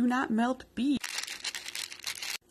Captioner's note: asmr crinkle